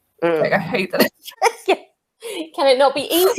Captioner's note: laughs